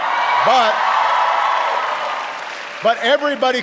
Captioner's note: applause